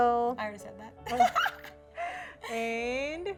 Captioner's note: both laughing